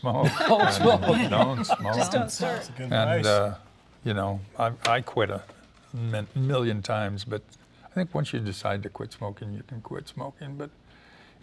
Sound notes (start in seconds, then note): 2.5 laughter